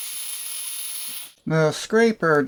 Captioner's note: hissing sound